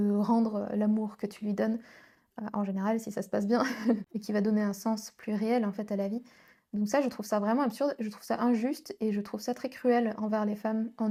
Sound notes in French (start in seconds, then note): 3.6 rires